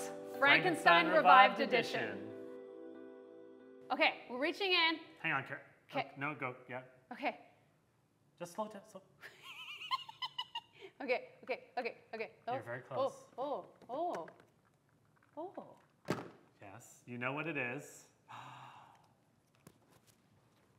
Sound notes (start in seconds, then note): 9.2 laughs